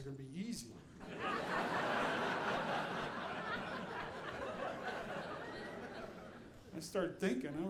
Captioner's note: audience laughing